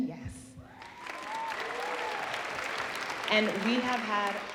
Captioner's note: audience applauding